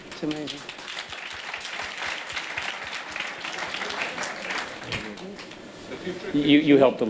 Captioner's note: applause